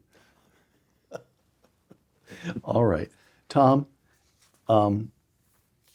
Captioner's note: laugh